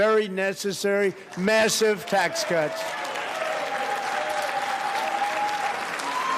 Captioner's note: applause